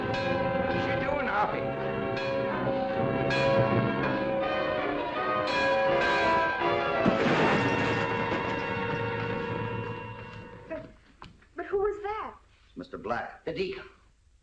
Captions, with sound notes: What are you doing? [ BELL TOLLING ] [ BANG ] - But who is that? - Mr. Black. The deacon.